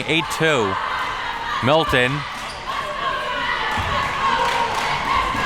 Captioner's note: crowd chanting